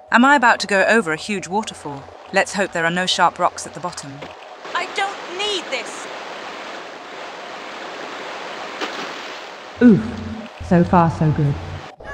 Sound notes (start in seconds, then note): 6.4 heavy water noises